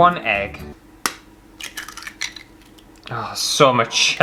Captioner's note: egg Cracking